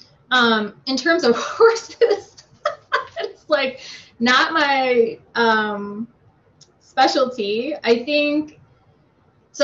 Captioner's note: laughs